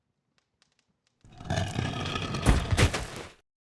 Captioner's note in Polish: odgłos przesuwanego ciężkiego wieka od trumny